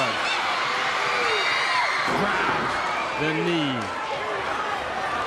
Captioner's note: crowd cheering